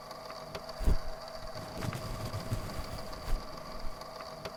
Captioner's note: brief sounds of scuffling